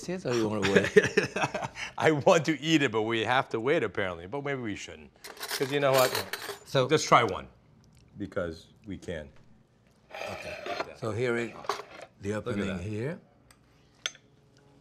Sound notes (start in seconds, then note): 0.6 Ming chuckles; 5.2 cutlery clanging